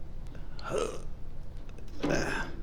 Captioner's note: heaves